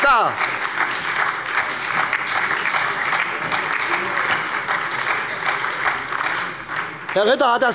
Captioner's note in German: Beifall bei der SPD und der LINKEN